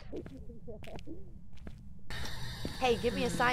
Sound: laugh

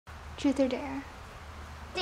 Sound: rain

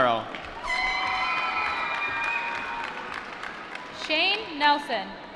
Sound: applause

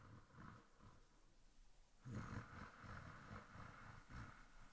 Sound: light snoring

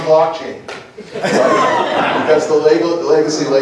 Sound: laughter

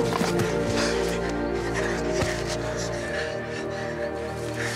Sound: footsteps scrape; Liam breaths shakily

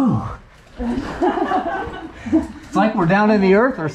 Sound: laughing

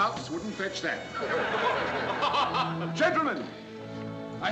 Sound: men laughing

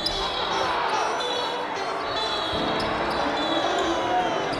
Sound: crowd jeering; whistles blowing

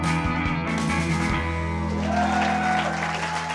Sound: cheering

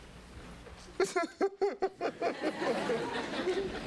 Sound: sobs

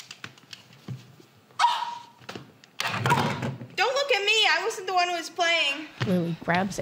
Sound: Lily squeals

